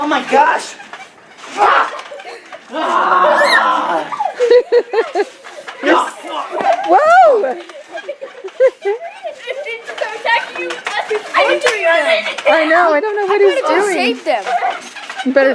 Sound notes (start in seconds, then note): 3.3 playful shouting; 4.3 laughing